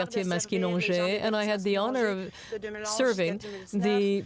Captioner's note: speaking french